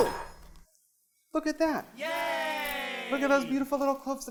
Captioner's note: cheering